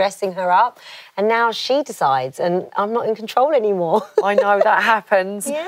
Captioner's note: laughs